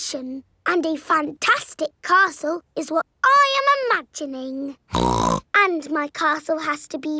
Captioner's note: snorts